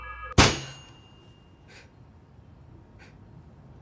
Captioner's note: balloon loudly pops